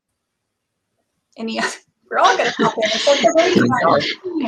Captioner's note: laughs